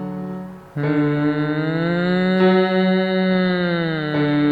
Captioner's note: piano; humming